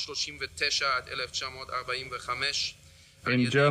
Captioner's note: continues speaking German